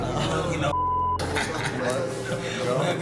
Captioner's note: laughs